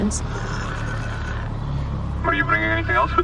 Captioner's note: droid scanning sounds